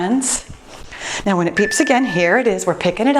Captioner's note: timer beeps